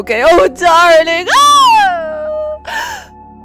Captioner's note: wailing